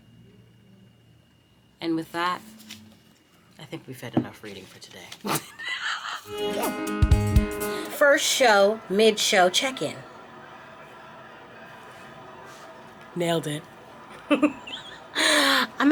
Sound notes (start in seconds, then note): 5.2 laughing; 6.2 bright music; 14.0 laughing